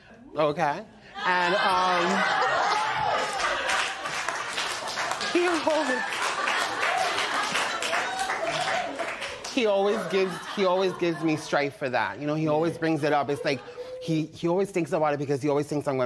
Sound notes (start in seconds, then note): 1.4 laughter